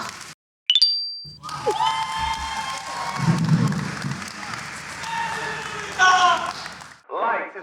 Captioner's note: cheering